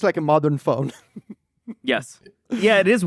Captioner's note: laughs